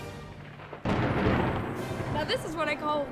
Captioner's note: thunderclap